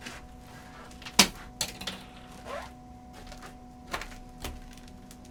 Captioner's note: brush clatters